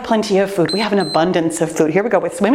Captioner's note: timer beeps